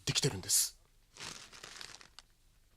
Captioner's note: SFX: letter unfolding